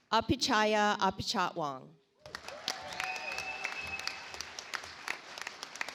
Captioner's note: audience applauds